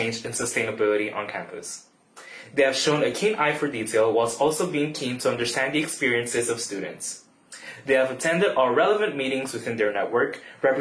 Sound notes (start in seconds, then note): none